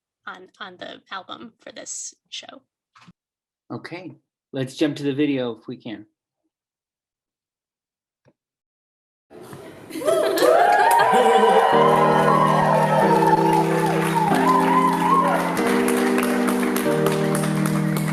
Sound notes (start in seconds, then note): 10.4 cheers and applause; 12.6 mid-tempo music playing